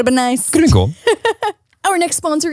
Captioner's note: laughs